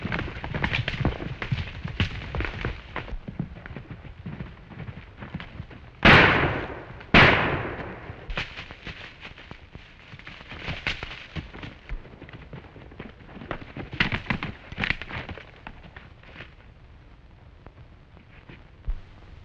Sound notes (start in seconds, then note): 6.0 gunshot